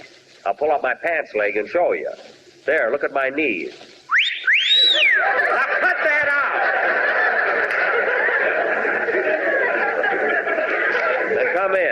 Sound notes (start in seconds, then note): 4.0 whistle